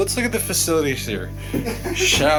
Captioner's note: chuckles